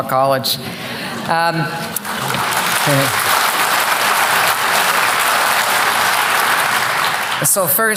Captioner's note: applause